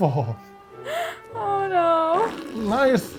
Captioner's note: comical squelching